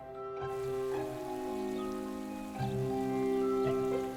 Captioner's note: gentle music; water splashing